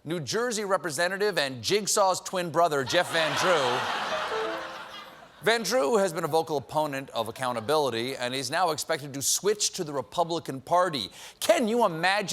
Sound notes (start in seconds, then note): 4.1 piano riff; 4.6 laughter